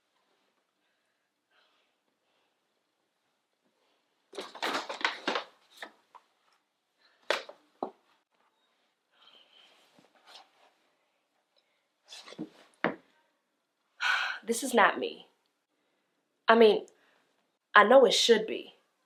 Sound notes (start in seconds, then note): 4.4 crunching paper bag